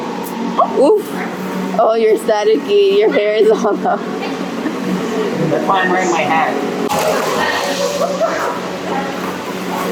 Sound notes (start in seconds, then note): 7.6 laughs